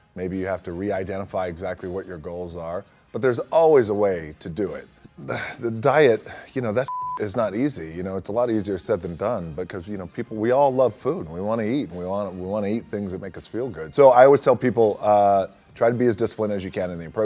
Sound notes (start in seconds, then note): 6.8 beep